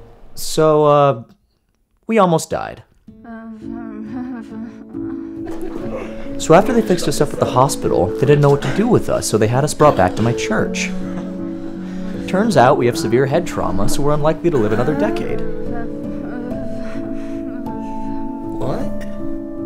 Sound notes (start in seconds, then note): 15.7 beth mumbles